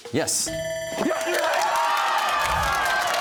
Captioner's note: bell ringing; cheers and applause